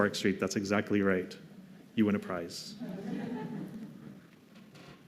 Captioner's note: laughter